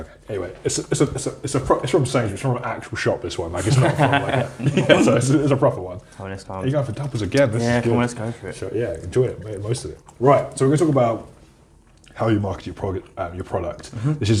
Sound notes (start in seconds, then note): 3.4 laughs